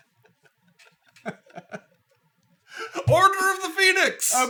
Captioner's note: laughing